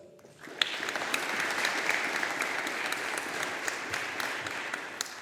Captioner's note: audience applauding